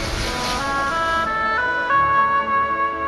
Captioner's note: is it the sound of a waterfall?